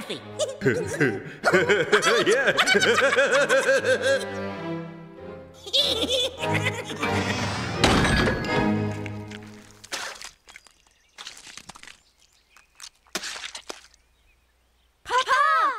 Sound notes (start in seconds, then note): 0.3 giggling; 7.2 splat!